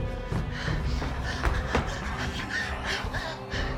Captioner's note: Claire panting